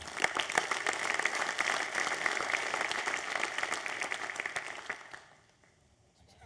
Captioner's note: applause